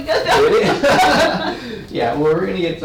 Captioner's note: laughs